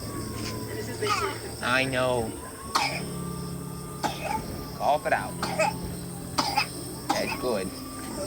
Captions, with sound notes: Uh. I know. [coughing] Cough it out. [coughing] That's good.